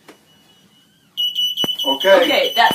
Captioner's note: alarm